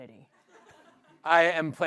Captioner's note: laughter